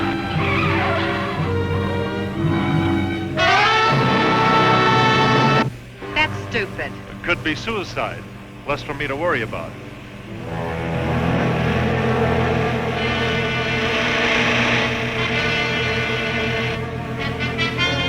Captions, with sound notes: (tires screeching) (dramatic music) - That's stupid. - It could be suicide, less for me to worry about. (car engine revving) (upbeat music)